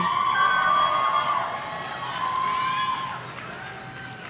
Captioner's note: audience cheering